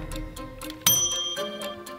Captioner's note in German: Klingeln